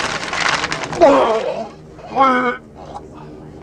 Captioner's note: vomits